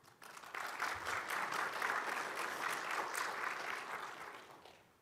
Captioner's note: audience applauding